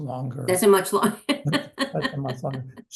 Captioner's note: laughs